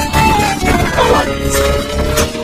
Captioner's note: music slows, stops; all groaning, grunting